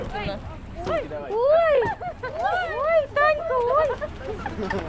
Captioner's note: laughter